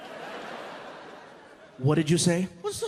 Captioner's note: sternly